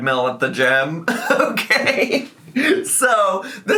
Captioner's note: laughing